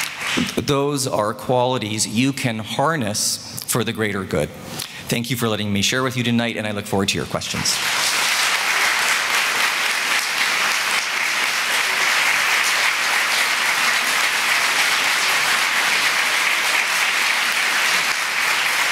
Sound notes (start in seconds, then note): 0.0 audience clapping; 7.6 audience clapping